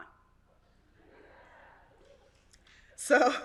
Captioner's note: laughing